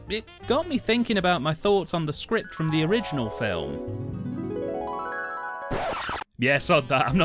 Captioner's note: flashback waves start